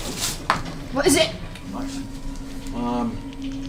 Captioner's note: gasps